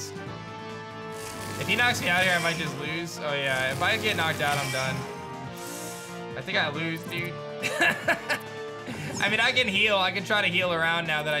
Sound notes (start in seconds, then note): 7.6 laughs